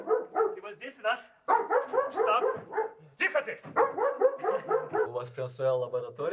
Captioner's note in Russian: гавкает собака